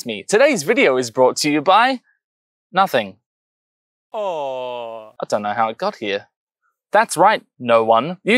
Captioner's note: aww